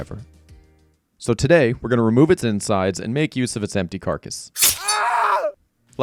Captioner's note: knife Noises; screams